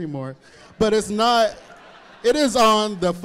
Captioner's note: audience laughing